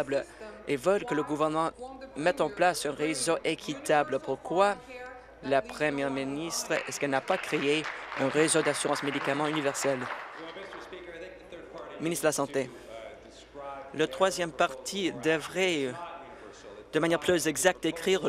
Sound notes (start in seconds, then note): 9.9 applause